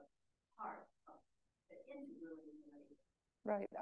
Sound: speaks faintly

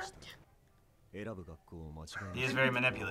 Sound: speaking Japanese

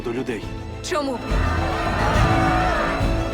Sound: crowd shouts

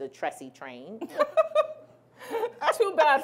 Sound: laughing

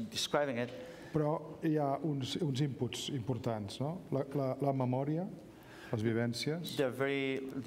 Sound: speaking catalan

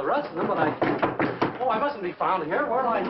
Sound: knocking

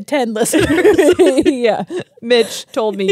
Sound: laugh

